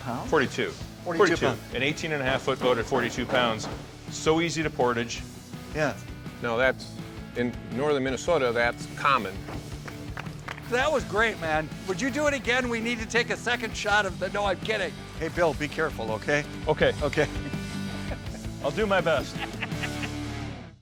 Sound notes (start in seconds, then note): 9.8 clapping; 19.1 laughing